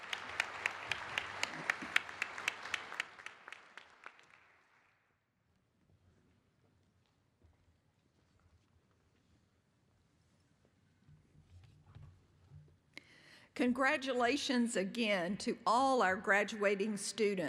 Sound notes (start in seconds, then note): 5.0 applause